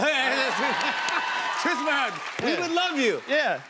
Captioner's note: cheers and applause